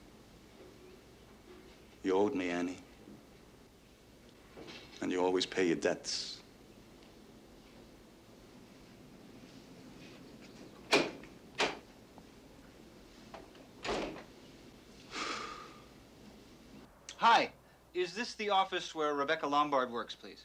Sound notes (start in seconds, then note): 11.5 door opens; 13.4 door shuts; 15.1 sighs in relief